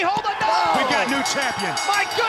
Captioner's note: bell